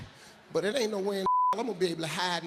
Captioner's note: beep